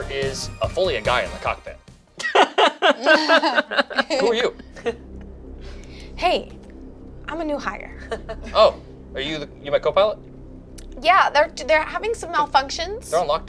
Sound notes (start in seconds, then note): 2.2 laughs; 5.3 tense music